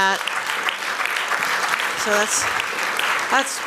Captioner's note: applause